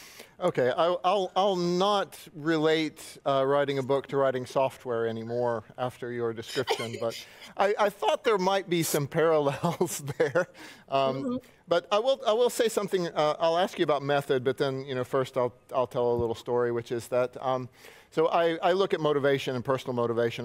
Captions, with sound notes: Okay, I'll not relate writing a book - to writing software anymore after your description, - but I thought there might be some parallels [chuckles] there. But I will say something, I'll ask you about method, - but then, you know, first, I'll tell a little story, which is that, - so I look at motivation and personal motivation, -